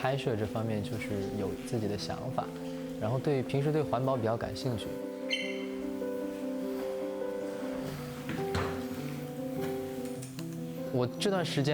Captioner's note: speaking chinese